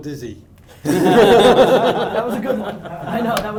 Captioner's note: laughing